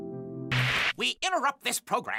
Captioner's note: static